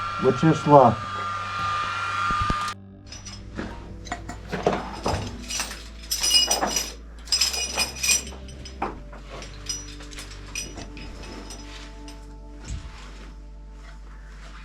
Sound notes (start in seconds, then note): 1.0 whirring stops; 3.1 metal clanking; 3.6 shuffling and scraping